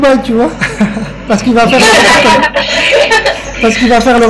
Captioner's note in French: rire